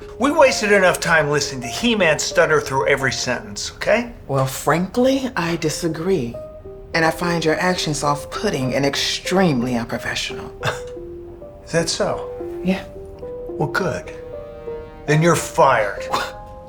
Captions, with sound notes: We've wasted enough time listening to He-Man stutter through every sentence, okay? Well, frankly, I disagree. And I find your actions off putting and extremely unprofessional! (scoffs) - Is that so? - Yeah. Well, good. Then you're fired! (scoffs)